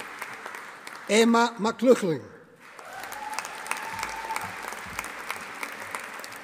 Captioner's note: audience applauding